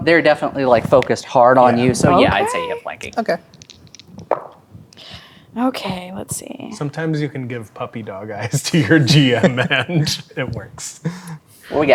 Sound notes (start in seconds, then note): 3.5 dice rolling; 9.7 laughing